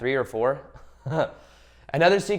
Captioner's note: chuckles